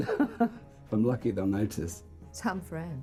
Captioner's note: laughing